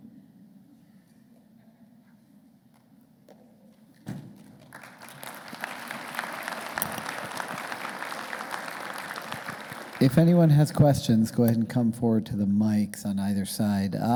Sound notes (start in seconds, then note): 4.4 crowd applauding